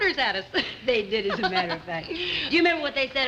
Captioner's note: laughs